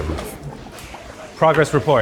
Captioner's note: rendang bubbles